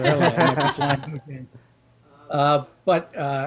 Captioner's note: laughs loudly